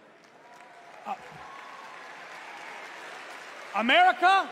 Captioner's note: applause